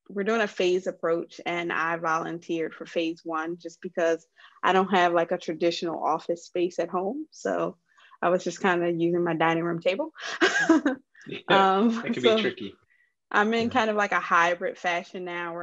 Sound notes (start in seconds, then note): 11.3 laughs